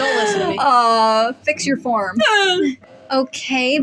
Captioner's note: faux Cry